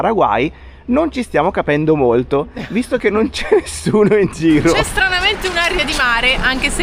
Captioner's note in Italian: risate